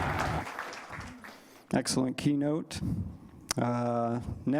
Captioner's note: applause